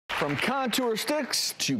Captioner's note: applause